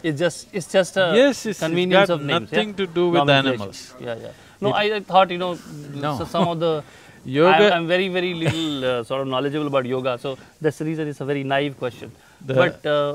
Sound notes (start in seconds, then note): 8.3 laughs